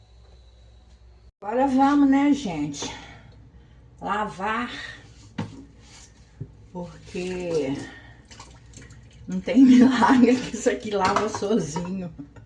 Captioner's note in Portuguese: risadas